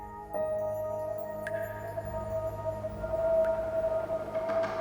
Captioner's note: eerie whistling